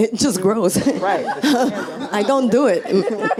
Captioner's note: audience and panel laughs